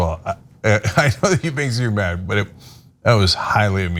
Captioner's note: laugh